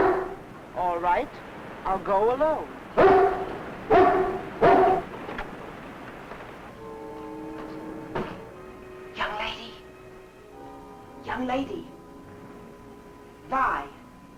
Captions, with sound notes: All right, I'll go alone. (dog barking) (light dramatic music) Young lady. Young lady. Vi?